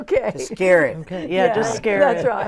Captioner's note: laughing